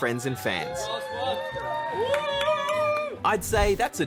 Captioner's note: cheering